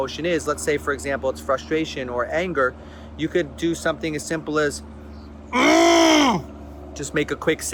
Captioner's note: yelling into elbow